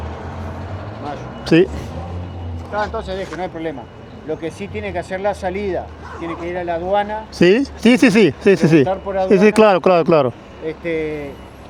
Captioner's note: speaking Spanish